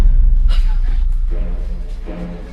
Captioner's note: tense music; Macy gasps